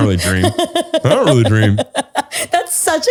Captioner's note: laughs